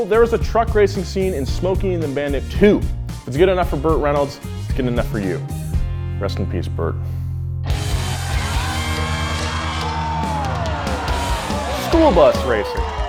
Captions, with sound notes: There's a truck racing scene in Smokey and The Bandit II. If it's good enough for Burt Reynolds, it's good enough for you. Rest in peace, Burt. (crowd cheering) Skool bus racing.